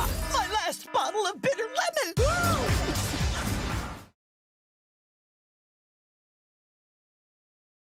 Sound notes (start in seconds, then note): 2.2 rock music; 2.7 Archer cheers